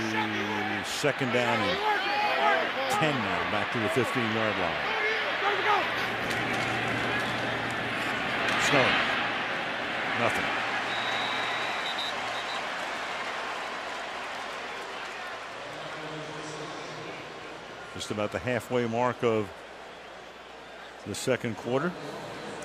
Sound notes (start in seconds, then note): 10.8 whistle; 16.2 pa announcement